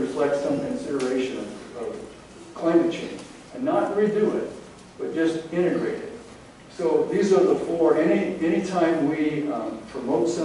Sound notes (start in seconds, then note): none